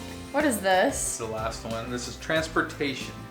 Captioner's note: male Voice